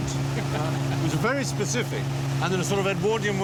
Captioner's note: chuckles